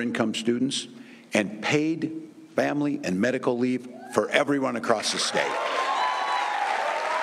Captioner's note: cheers and applause